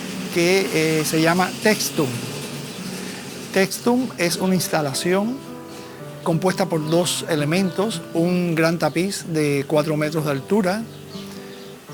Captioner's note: speaking spanish